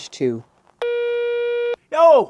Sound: phone tone

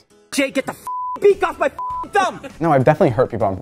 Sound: beep

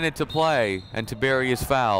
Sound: whistle blowing

